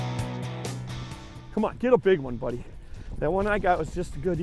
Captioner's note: voiceover